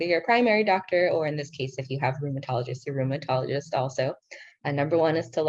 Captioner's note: speaking in foreign language